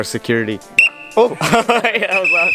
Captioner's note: loud whistle